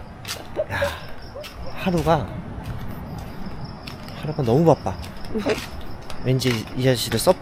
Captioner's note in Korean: 한숨